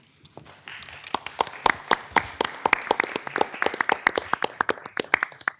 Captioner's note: attendees applauding